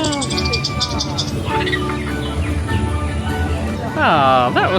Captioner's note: mouse chittering